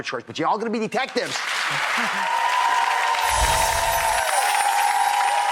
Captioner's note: audience applauding